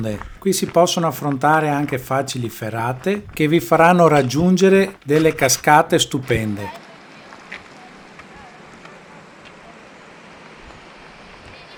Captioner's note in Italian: Applauso